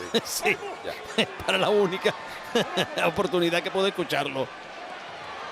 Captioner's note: laugh